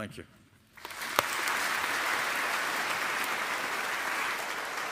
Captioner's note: audience applauding